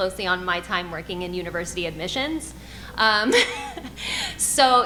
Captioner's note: laughs